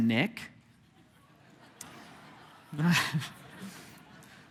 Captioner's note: congregation laughing